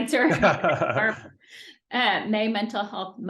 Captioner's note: laughing